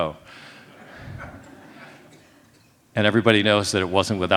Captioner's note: laughs